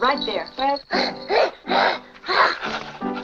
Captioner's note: child growls